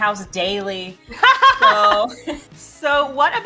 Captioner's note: laughes